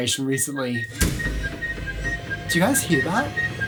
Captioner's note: beeping from distance